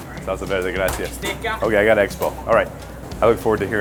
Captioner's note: speaking Italian